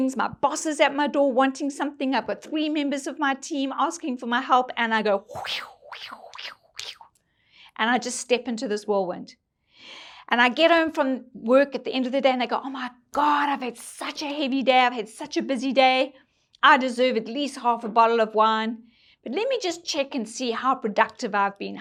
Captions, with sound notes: "my boss is at my door wanting something, "I've got three members of my team asking for my help, "and I go." (imitates whirlwind whooshing) And I just step into this whirlwind. And I get home from work at the end of the day, and I go, "oh my God, I've had such a heavy day, "I've had such a busy day. "I deserve at least half a bottle of wine. "But let me just check and see how productive I've been,